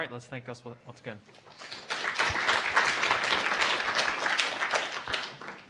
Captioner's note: applause